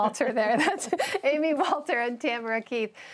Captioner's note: laughter